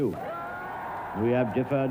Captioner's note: crowd cheers